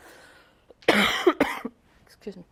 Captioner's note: coughs